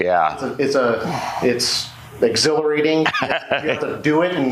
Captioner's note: laughs